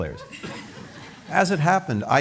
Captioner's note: laughter